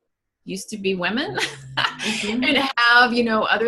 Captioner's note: laughter